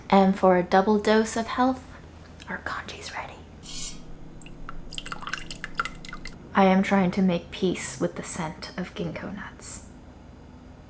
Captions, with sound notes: And for a double dose of health, our congee's ready. (spoon scrapes) (liquid trickling) I am trying to make peace with the scent of gingko nuts.